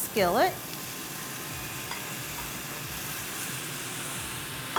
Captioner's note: pan sizzling